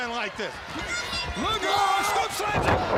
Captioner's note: crowd cheering